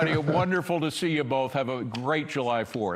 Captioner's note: laughter